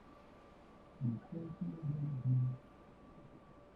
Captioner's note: humming